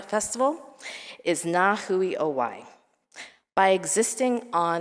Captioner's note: speaking in foreign language